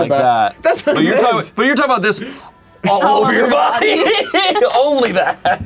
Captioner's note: laughs